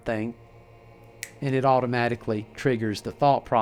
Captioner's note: fingers click